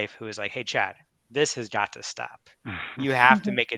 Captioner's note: laugh